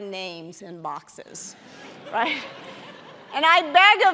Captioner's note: audience laughing